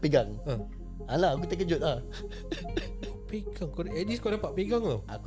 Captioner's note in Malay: ketawa